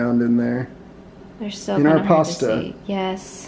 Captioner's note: faintly speaking